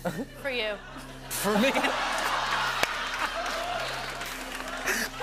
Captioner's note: laughter